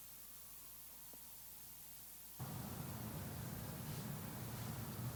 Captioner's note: sirens sound